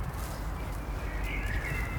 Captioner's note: birds chirping